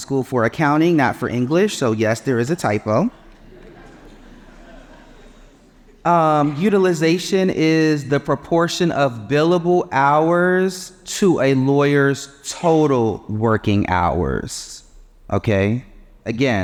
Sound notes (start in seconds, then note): 3.1 audience chuckling